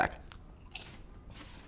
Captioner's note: crunch